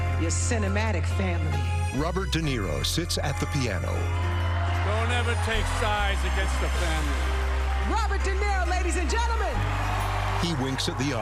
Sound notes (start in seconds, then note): 3.4 cheering and applause